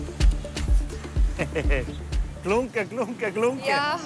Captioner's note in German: Lachend